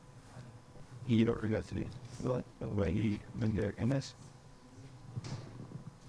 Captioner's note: attendee speaks in foreign language